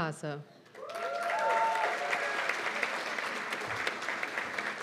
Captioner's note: cheers and applause